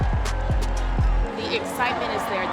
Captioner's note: crowd cheering